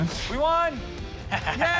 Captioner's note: laughs